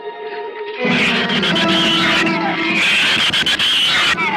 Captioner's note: shrews screech